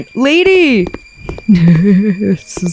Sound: chuckles

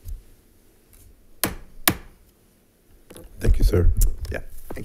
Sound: gavel thuds

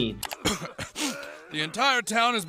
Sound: reporter coughs then sniffles

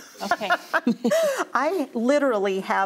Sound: laughs

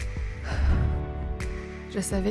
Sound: sigh

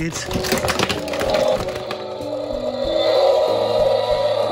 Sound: dinosaur roars

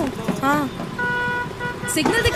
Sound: honking

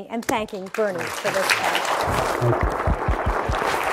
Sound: audience applause

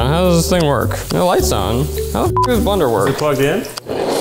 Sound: beep

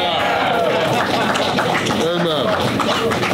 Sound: crowd cheering

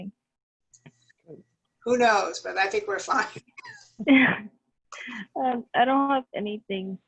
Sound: laughter

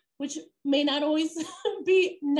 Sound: laughter

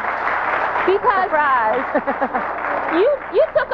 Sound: laughing

